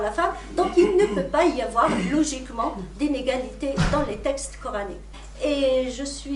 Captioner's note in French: raclement de gorge